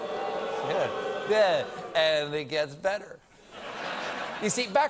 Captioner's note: audience boos